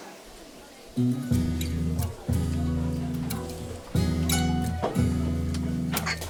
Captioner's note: students murmuring; relaxing music